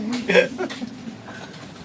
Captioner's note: laughter